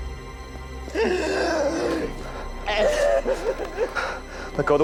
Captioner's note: crying